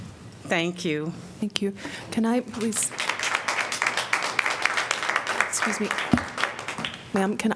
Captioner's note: applause